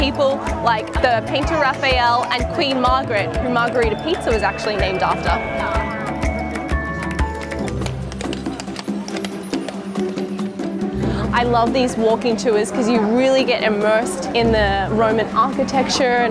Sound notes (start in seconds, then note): 6.1 upbeat music; 8.0 horse shoes clicking